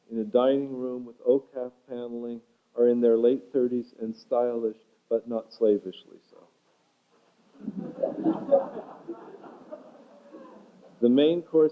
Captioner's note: laughter